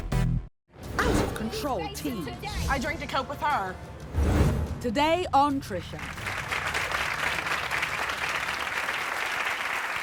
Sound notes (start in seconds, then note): 5.9 applause